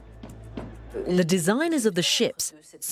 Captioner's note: voiceover